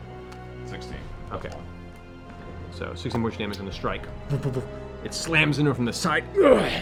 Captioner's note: impact sounds